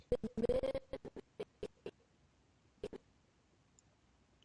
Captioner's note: audio skipping